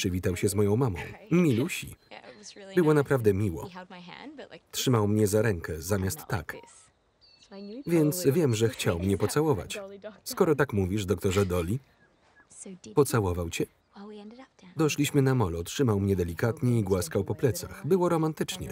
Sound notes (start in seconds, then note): 5.1 birds chirping; 10.5 laughter